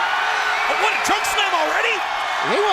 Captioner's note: crowd cheering